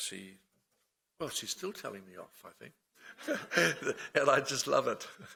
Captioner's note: laughs